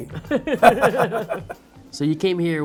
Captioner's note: laughing